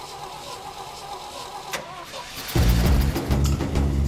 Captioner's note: engine sputtering; engine turns over